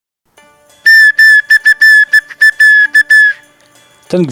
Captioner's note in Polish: gwizd